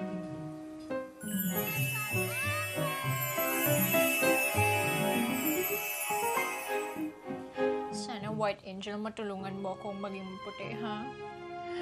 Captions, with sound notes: -Special offer! -[sparkling sound plays] White angel, I hope you can help me become white.